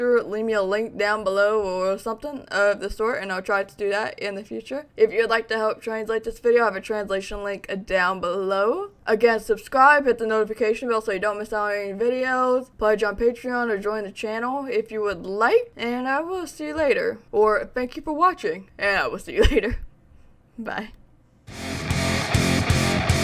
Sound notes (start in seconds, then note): 19.6 laughs; 21.4 rock music